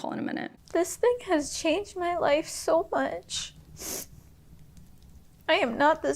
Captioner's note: sniffles